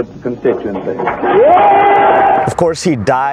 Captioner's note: cheers